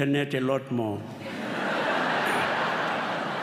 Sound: laughter

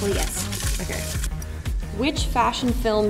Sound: paper crinkling

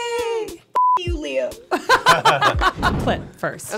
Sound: all laughing

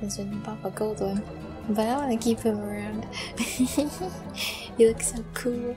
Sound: laughter

